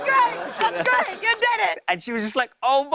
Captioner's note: normal voice